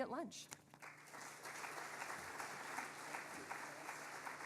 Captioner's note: audience applauding